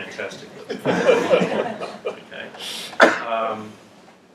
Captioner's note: laugh